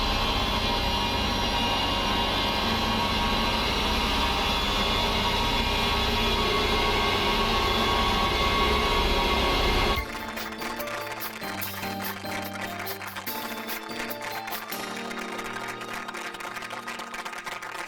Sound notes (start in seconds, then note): 9.9 light instrumental music; 9.9 audience applauding